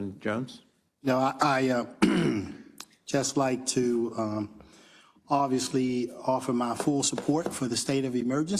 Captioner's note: cough